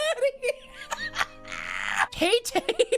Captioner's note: laughing